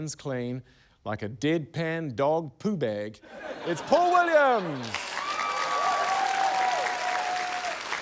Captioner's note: cheering, applause